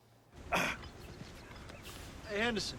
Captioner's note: Knox grunts